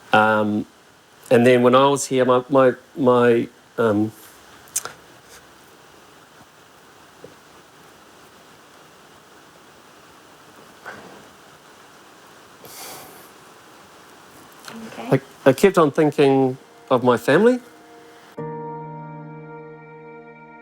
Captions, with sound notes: Um, and then when I was here, my... my, um... (SIGHS) - You OK? - I kept on thinking of my family. (SOMBRE MUSIC)